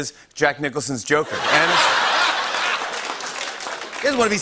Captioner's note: laughter